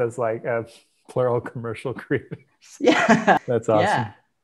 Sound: laughs

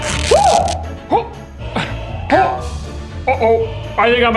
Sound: pants tearing

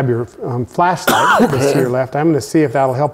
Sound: coughing

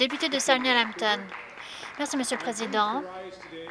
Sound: applause

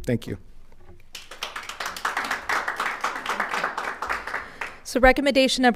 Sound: audience applauding

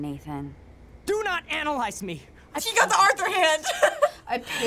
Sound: laughs

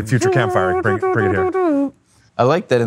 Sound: trumpets

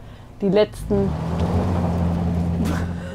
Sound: bus hums

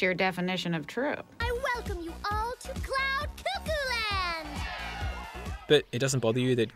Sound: cheering

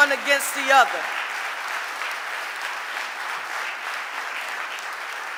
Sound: audience applauding

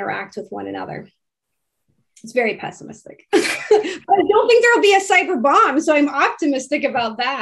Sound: laughs

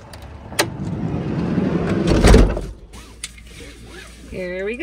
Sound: door closing

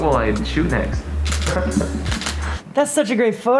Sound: camera clicks

